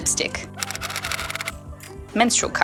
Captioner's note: typewriter style clicking